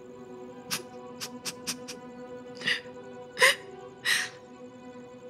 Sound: crying

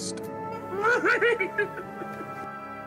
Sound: Yoda laughs

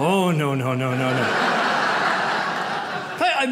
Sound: audience laughs

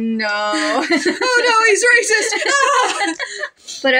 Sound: laugh

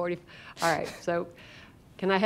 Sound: laughter

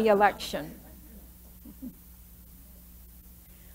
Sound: laughter

